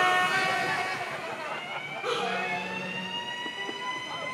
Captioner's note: siren wailing